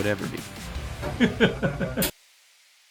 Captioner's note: Scott Laughing